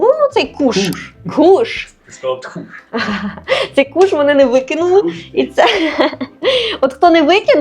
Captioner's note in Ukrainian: сміх